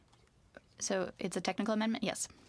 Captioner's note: speaking in french